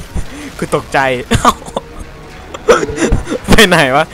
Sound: laughing

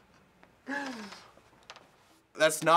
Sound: snickering; sharp sigh

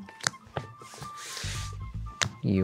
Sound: cards slap on table; cards sliding; cards slap on table

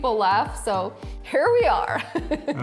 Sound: laughing

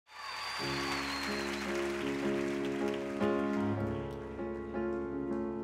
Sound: audience cheering; wistful music

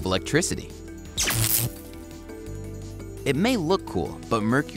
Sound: zap

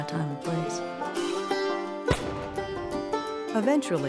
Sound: gunshots

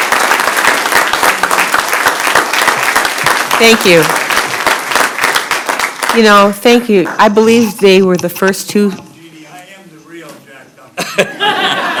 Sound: applause

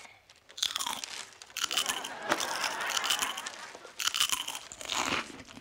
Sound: crunching

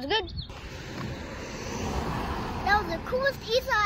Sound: car drives away

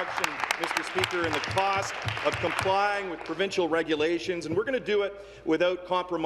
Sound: applause

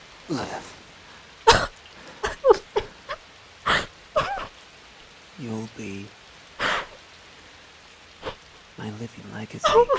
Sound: bursts into tears

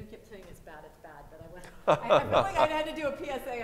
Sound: laughs

